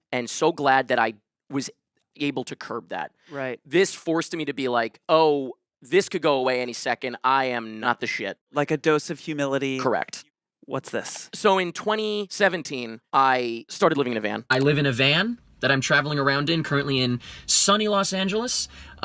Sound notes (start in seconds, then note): none